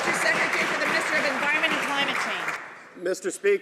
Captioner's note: some Applause